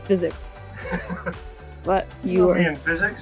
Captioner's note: laughing